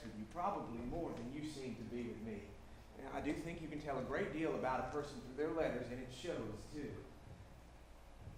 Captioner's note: none